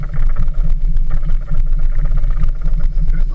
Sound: engine sounds

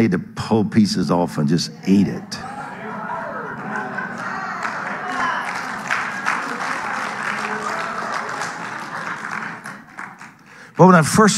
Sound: audience cheering and applauding

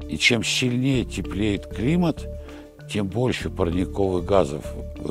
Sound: speaking in Russian

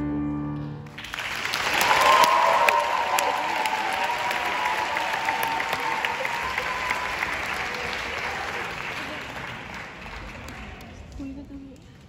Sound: applauds

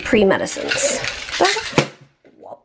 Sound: pill bottle clattering

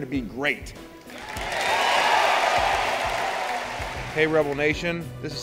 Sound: cheering

